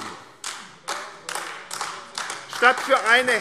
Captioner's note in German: Beifall AfD